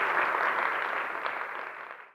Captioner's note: applause